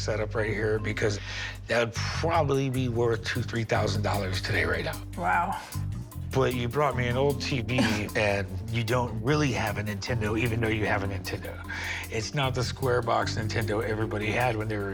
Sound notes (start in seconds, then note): 7.7 laughs